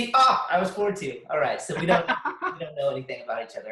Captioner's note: laughs